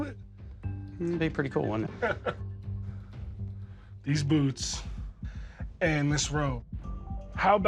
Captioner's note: chuckles